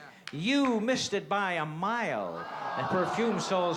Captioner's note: crowd groans